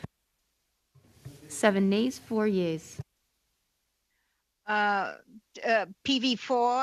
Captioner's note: speaking French